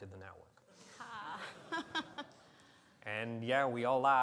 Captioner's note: laughing